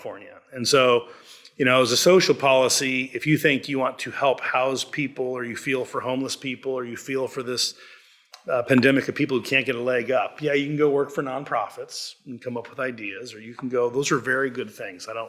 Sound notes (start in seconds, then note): none